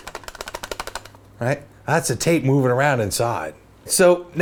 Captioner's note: plastic rattles